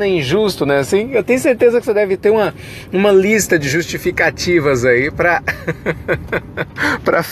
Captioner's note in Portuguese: risos